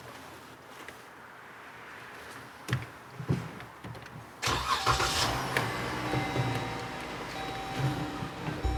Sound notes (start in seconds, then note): 4.5 engine rumbling